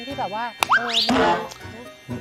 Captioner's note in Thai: เสียงเอฟเฟกต์